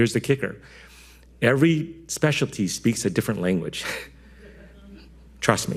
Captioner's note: chuckling